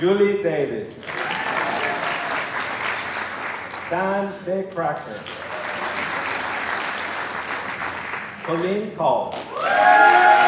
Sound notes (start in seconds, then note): 0.0 applause